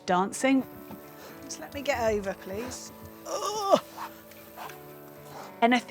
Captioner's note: groans